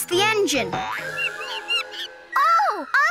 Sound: monkey screeching

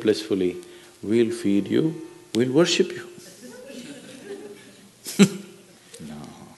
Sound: laughter

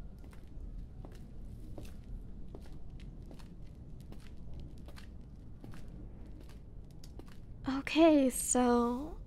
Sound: sound: walking

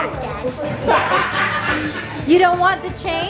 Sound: man laughs

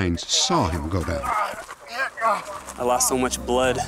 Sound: groaning

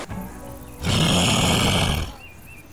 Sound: growl

